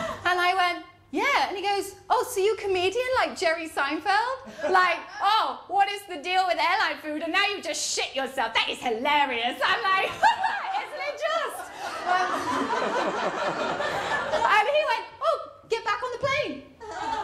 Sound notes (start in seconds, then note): 11.3 laughter